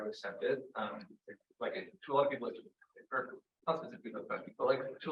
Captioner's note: audio blurs